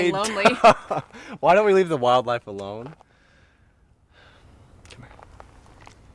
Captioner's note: laughs